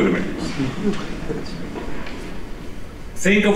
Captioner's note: chuckling